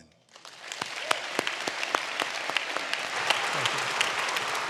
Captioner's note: audience clapping